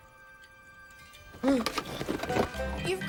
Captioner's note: gasps